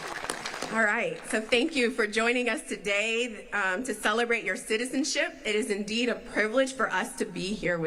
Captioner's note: applause